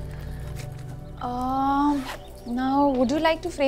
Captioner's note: Closes bag